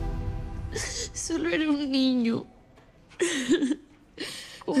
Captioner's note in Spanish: Sollozos